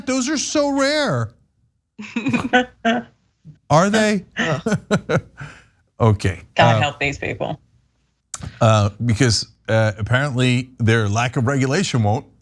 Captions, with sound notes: Those are so rare. >> [LAUGH] >> Are [LAUGH] They okay? >> God help these people. >> Because apparently their lack of